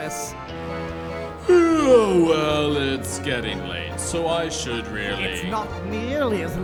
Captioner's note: yawns